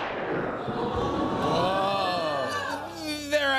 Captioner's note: thunder crashes; audience ooh's